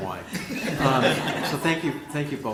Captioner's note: laughter